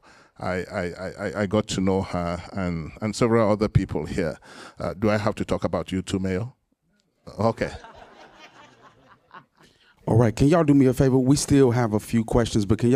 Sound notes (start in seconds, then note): 7.6 laughter